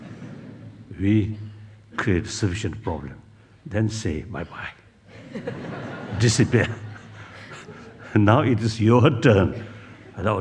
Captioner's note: laughs; laughs